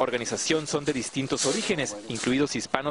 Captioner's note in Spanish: habla en inglés